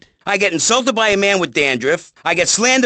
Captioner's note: none